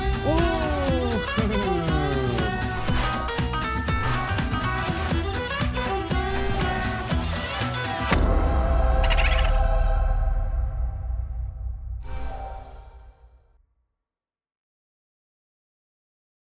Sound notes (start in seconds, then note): 2.6 magic wand twinkling; 8.1 explosion and holy choir